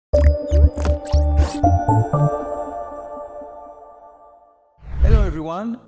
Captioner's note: pencil squeaking; whimsical music